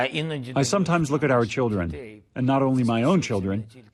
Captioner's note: through translator